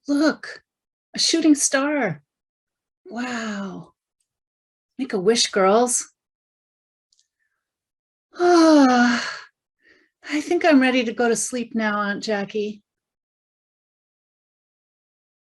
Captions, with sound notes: 'Look, a shooting star!' 'Wow!' 'Make a wish, girls.' - (yawning) 'I think I'm ready to go to sleep now, Auntie Jackie.'